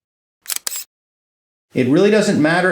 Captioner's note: snap sound